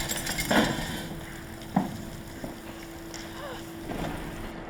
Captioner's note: glass shattering; rain pouring